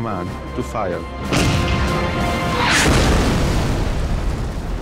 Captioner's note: explosion booming